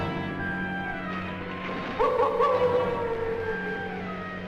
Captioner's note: wolf Howls